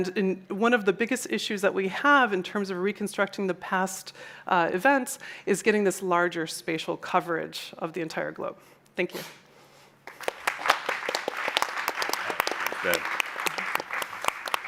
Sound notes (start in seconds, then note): 10.0 applause